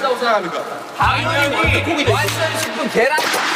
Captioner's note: applauding